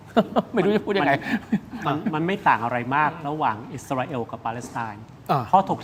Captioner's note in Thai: เสียงหัวเราะ